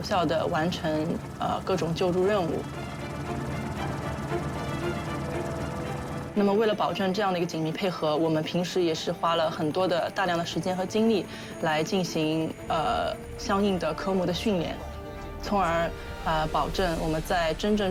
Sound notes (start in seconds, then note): 2.4 helicopter blades whirring